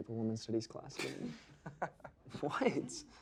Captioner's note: students laugh